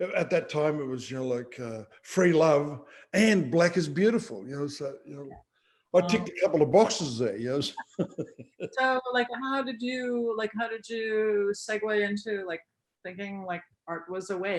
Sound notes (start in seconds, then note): 7.4 laughs